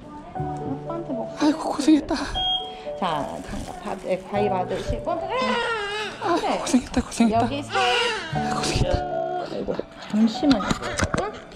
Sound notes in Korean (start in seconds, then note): 1.0 놀람; 6.4 울먹